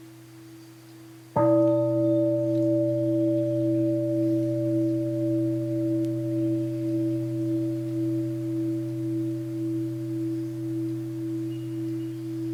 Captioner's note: second sound of the bell